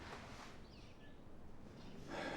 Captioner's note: sigh